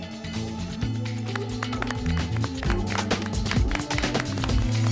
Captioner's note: scattered applause